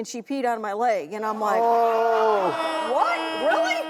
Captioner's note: audience and cast groan; audience laughs